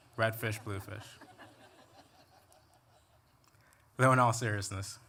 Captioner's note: laughter